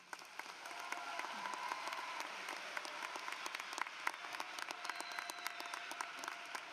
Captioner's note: applause